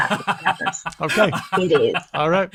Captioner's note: laughs